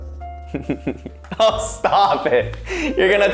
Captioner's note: laughing